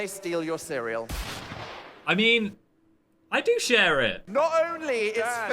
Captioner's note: gunfire exploding